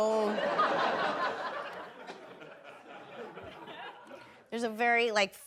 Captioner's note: audience laughing